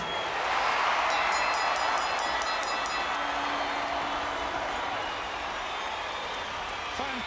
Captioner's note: audience cheering; bell ringing